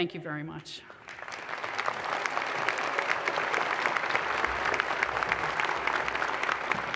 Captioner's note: audience applause